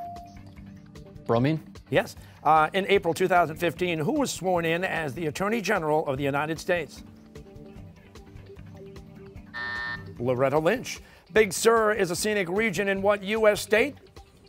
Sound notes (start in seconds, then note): 9.5 buzzer